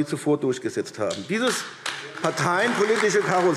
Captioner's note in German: Beifall AfD